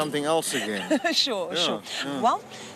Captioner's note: laughs